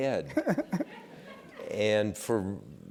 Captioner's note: laugh